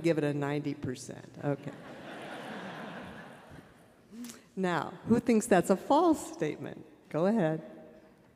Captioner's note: laughter